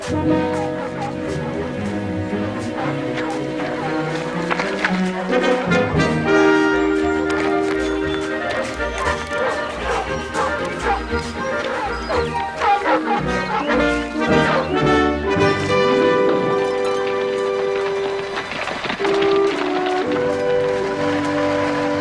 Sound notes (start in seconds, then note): 17.6 Aplausos